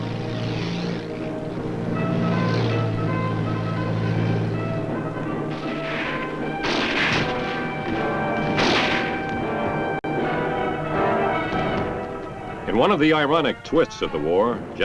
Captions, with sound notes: (military music) (somber music) (gunshots booming) In one of the ironic twists of the war,